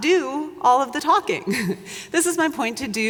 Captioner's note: chuckles